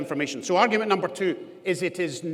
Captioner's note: none